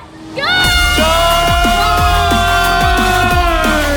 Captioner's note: yelling